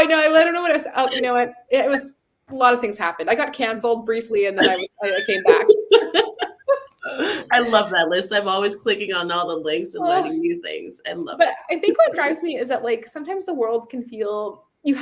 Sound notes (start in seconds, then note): 5.1 laughter